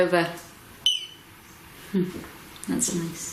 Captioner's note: beep